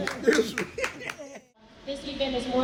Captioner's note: clapping